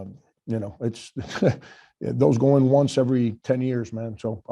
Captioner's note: chuckles